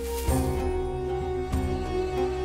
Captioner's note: Mouthing